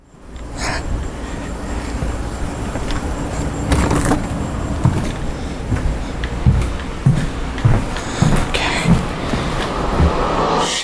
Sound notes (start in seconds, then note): 0.1 exhaling; 3.7 door clicking; 5.2 footsteps thudding; 9.2 ascending ominous music